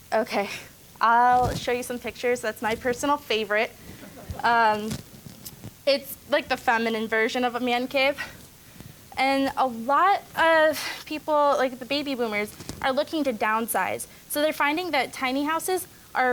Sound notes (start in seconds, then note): 4.0 audience laughing